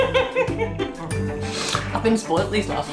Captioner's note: laffs